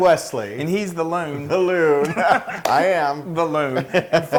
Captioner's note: laugh